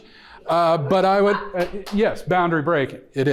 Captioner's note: audience member laughs